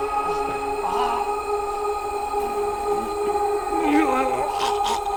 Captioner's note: Danny gargling